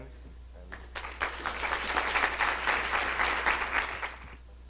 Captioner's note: audience applause